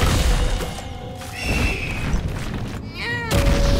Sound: squawking

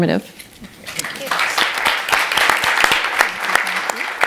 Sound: applause

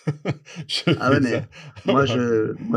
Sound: laughs

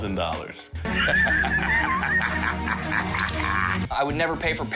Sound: laughing

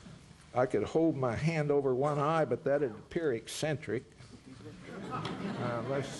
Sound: laughter

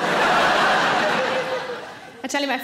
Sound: audience laughs

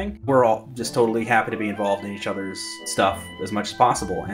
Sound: none

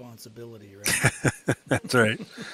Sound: chuckling

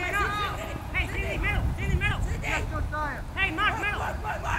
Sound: players talking and yelling

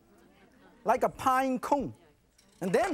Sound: speaks in foreign language

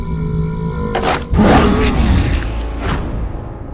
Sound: twig snapping

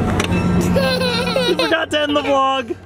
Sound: giggles

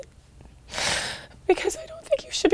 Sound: sniffles

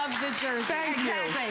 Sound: applause

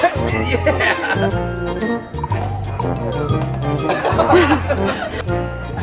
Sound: laugh

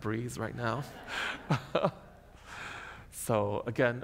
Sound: audience laughs; laughs

